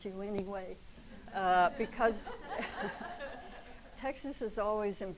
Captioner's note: audience laughs